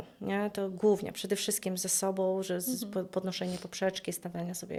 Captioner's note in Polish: parsknięcie